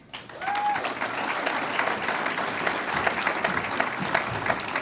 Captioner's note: audience applauds